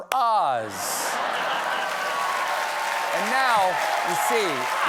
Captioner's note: laughter; applause